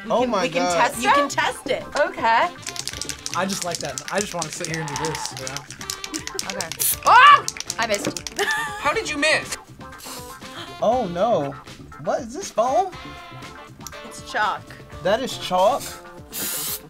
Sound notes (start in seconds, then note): 2.5 cans rattling; 7.9 React laughs